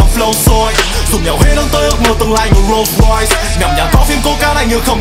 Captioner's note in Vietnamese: vroom